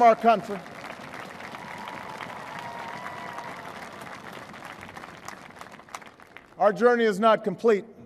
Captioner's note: applause